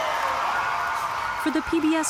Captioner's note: cheering and applause